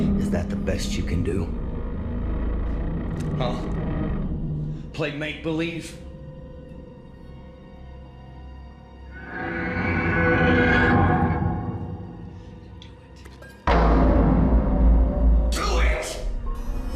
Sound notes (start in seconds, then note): 6.7 soft ominous music; 9.2 monster growling; 16.7 soft ominous music